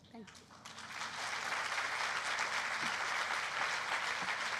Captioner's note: applause